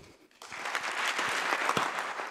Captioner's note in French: le public applaudit